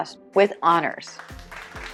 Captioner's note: applause